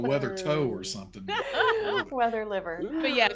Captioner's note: people laughing